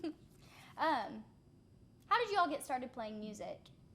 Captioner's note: laughing